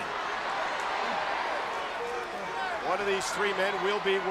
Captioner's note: crowd murmuring